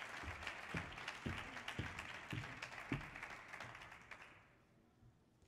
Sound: audience applauding continues

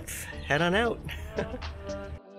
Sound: giggles; soft upbeat music

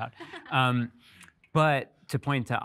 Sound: laughs out loud

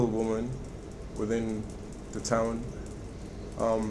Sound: none

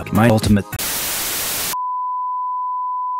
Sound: interference

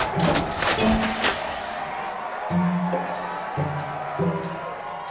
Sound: applause; coin machine clanging

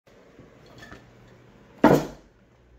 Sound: slam

